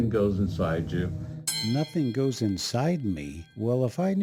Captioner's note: bell ringing